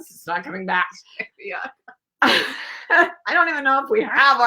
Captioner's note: laughing